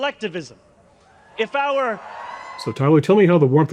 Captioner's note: audience cheering